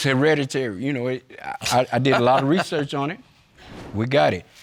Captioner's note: laughing